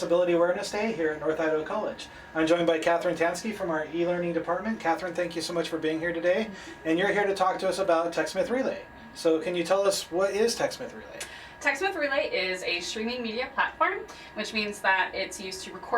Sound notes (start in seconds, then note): none